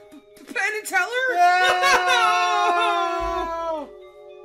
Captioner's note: cry out in pained anguish